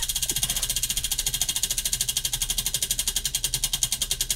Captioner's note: wheel clicking